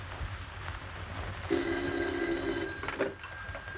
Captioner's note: phone rings